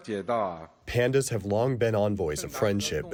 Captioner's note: through translator